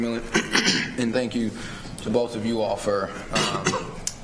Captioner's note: clears throat